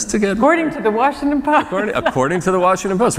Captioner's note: laughter